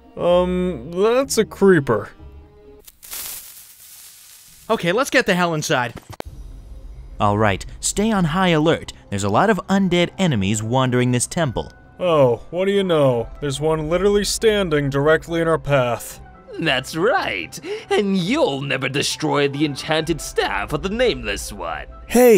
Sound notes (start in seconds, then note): none